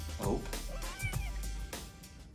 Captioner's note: meow